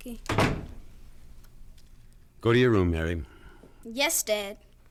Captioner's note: door closes